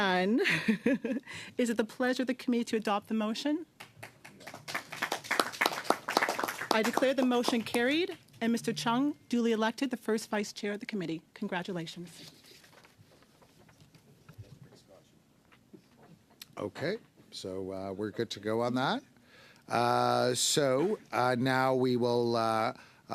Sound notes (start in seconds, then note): 8.0 applause